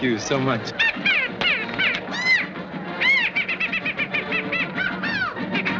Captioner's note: squealing Noises